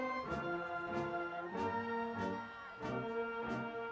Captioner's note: cheers and applause